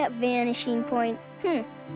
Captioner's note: scoffs